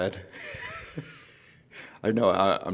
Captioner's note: laughs